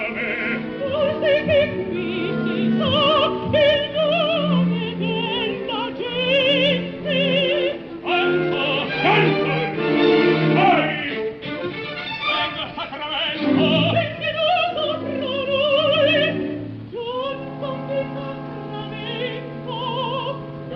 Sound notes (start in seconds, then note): 0.0 laughing